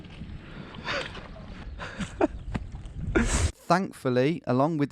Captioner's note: laughing